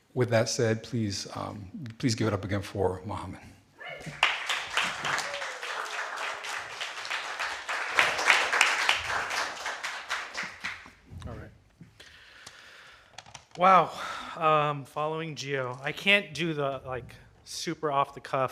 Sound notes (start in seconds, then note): 3.9 audience cheering; 4.0 audience applauding